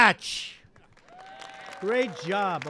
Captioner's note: applause